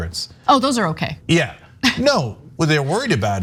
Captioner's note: laugh